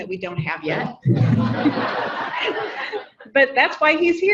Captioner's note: audience laughing